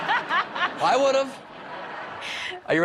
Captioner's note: laughter